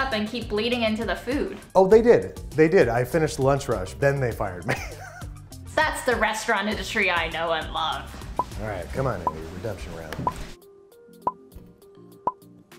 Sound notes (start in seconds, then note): 4.6 he laughs; 9.1 timer ticking